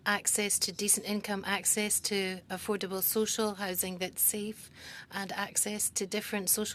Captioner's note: speaking French